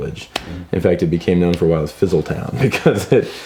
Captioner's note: laughs